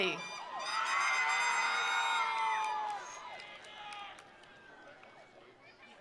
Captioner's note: attendees cheering; attendees applauding